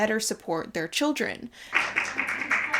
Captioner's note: audience clapping